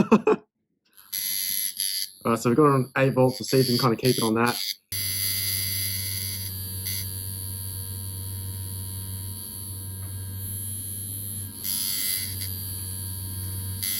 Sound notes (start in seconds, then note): 0.0 laughs; 5.3 machine whirring